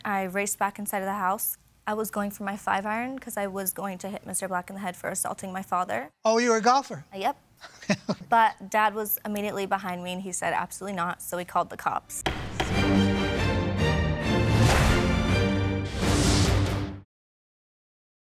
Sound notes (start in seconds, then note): 12.2 gavel bangs; 12.2 dramatic music